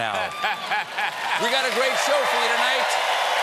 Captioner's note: cheers and applause